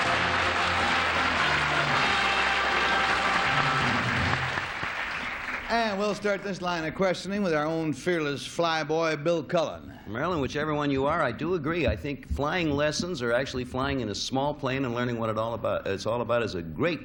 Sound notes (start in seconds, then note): 0.0 theme music; 2.9 applause